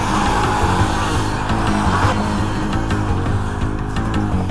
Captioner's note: all snarling & hissing